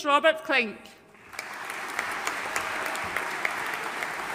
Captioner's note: audience applauding